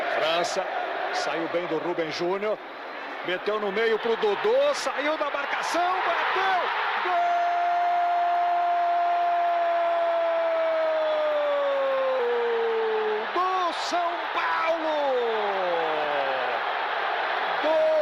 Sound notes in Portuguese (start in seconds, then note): 8.3 aplausos